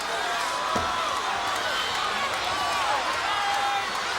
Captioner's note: crowd cheering